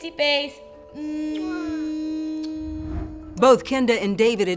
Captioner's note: blowing kisses